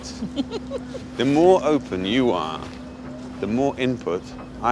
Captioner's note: giggles